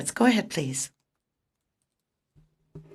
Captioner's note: speaking French